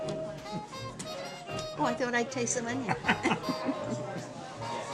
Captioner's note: laughs